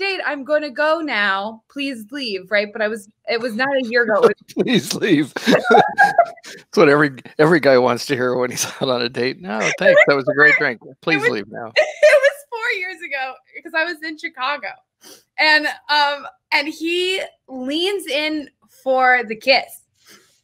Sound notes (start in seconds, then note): 4.5 laughs; 5.6 both laugh; 12.0 laughs